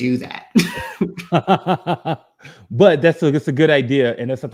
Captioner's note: laughs